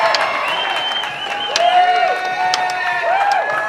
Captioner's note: crowd cheering